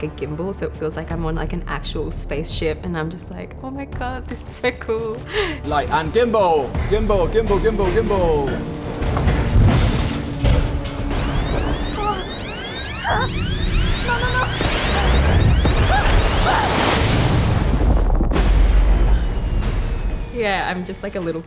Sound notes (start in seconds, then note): 11.1 alarm sounds; 16.0 Kwan screams